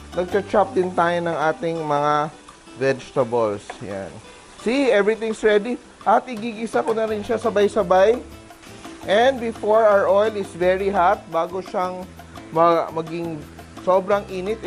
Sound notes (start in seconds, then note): 0.2 sizzle